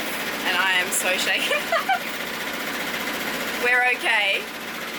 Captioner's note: laughs